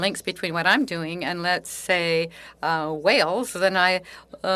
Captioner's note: speaking French